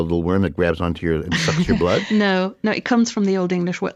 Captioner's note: laughs